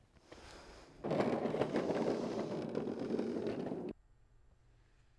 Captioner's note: breathing in face covering; castor wheels turning